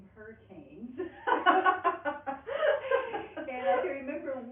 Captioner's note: laughing